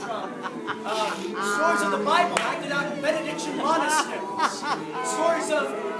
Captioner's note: droned humming